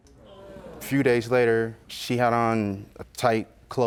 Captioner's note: audience groaning